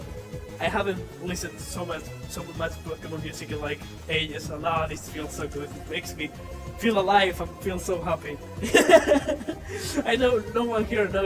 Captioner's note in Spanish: Más risas